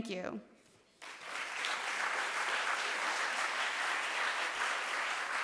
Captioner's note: audience applauds